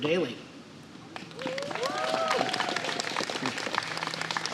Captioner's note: applause